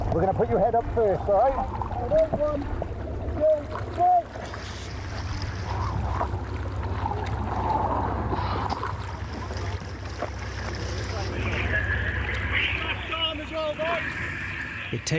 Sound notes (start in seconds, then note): 5.2 water sloshing